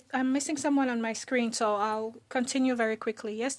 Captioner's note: speaking French